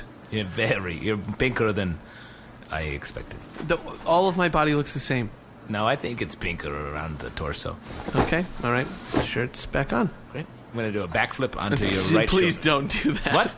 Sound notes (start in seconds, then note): 7.8 fabric rustling